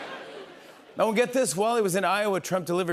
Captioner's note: normal voice